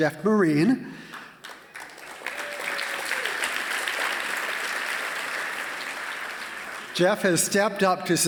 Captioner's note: applause